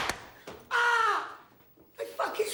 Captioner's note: screams